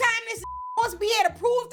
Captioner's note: beep